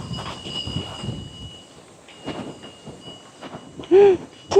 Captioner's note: sound of wind chimes